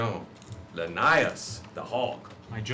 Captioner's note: none